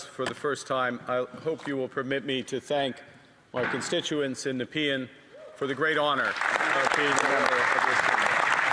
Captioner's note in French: voix de l'interprète